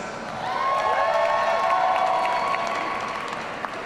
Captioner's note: audience cheering